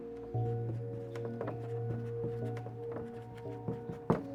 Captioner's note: marker scratching